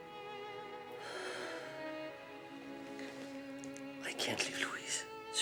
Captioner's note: Rene sighs